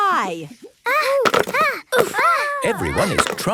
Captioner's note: all grunting